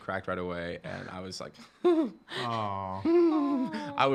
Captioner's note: chuckling